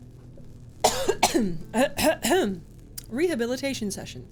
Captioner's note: coughing